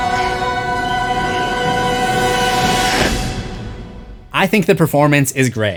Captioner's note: screams